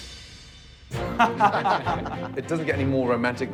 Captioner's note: laughter